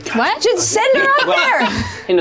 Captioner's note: laughs